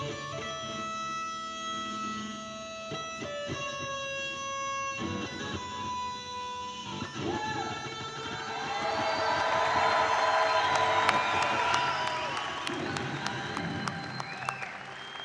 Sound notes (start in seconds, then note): 8.3 audience applauding and cheering